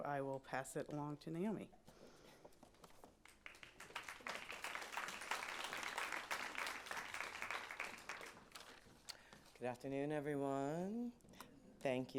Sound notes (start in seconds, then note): 3.2 applause